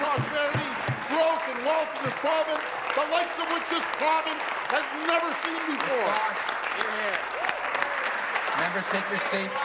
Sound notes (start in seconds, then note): 2.0 applause